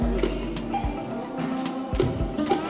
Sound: robotic walking

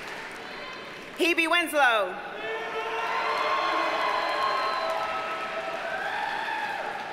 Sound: audience cheers and applauds

